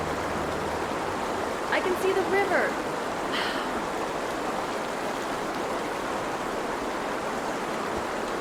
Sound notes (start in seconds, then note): 4.1 water gushing